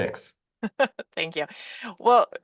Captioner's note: laughs